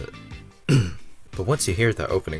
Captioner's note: cough